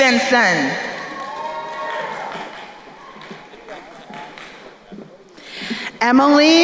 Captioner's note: crowd cheering and applauding